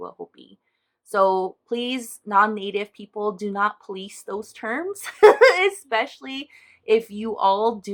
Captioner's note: chuckle